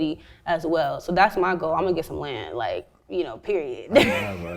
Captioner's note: laughs